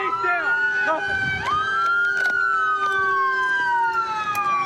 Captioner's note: sirens